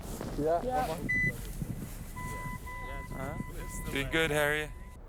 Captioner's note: beeping